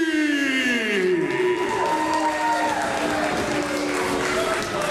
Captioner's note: crowd cheers